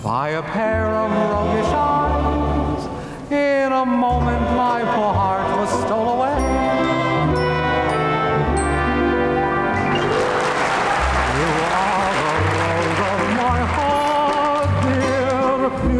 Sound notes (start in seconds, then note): 7.5 gentle music; 9.8 audience applauding